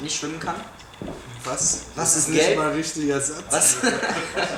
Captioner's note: laughs